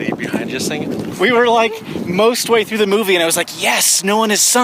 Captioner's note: excitedly